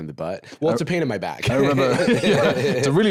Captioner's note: laughs